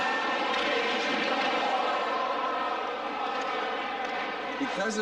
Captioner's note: hockey rink ambience